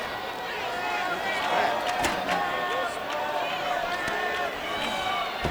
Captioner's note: audience chanting